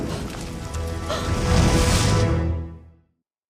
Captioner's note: gasps